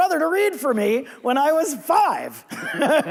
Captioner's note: laughs